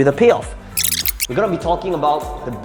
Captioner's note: video squeaking